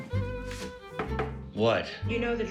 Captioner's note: knocking on door